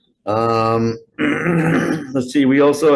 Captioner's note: clears throat